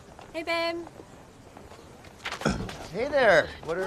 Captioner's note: clearing throat